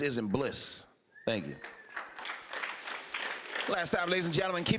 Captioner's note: applause